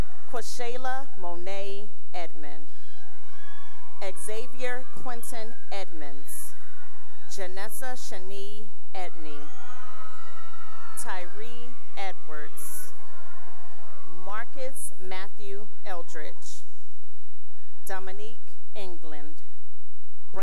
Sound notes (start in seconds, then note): 2.9 cheering; 6.4 cheering; 9.1 cheering; 16.7 cheering